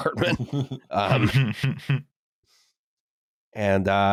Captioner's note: laughter